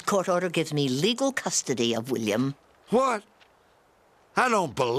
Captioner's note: none